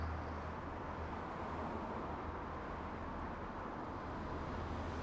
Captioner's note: road noise